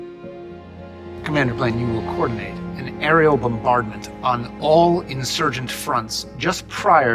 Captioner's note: voiceover